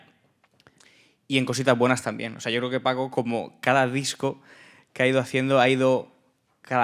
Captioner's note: speaking in Spanish